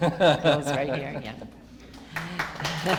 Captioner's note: laughter